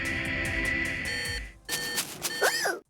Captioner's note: beeping